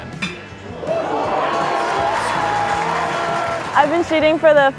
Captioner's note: cheering